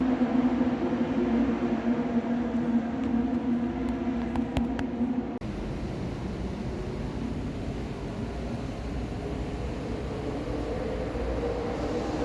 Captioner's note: sounds of cars racing on track